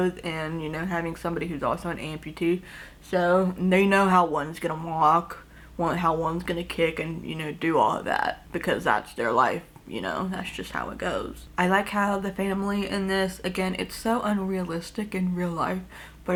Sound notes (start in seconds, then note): none